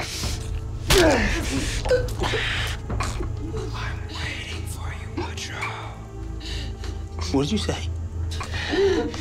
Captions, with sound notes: - [Demonic Voice] I'm waiting for you, Butcher. - What did you say?